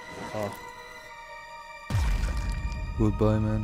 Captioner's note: unzips bag; body drops